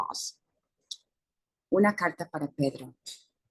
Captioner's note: speaking spanish